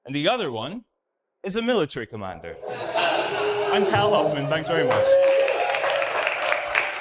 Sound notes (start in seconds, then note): 2.5 audience laughs; 5.9 audience cheers